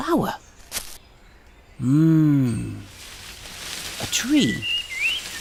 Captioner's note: tree rustling